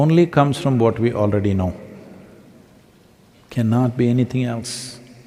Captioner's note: none